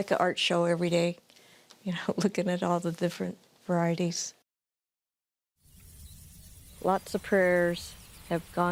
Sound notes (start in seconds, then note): 5.6 birds chirping